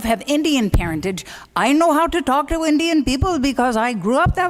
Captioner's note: indian accent